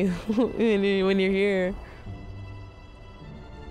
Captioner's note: chuckles